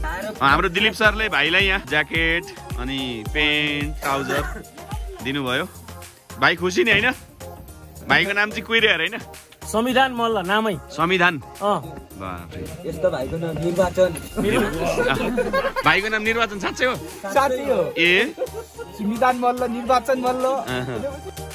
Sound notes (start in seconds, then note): 14.4 laughter